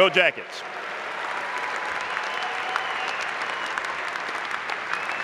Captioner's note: applause